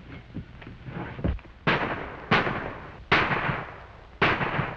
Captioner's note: gunshots